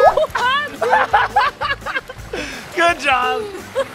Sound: laughing

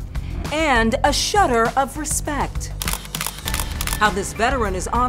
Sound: camera clicks

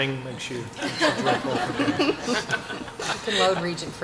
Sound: laughter

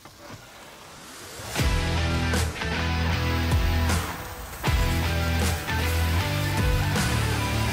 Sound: exciting music; steaks sizzling

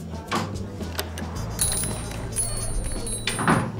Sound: door Chimes Jingling

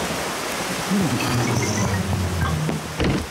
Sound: grunts

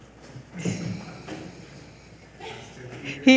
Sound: laughs

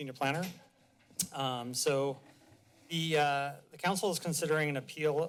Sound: clicks tongue

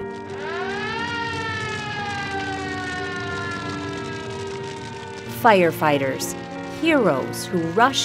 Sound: fire siren

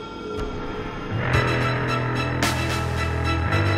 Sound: gun fires

